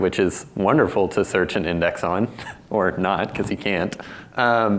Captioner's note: chuckles